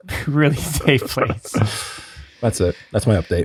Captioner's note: ft. laughing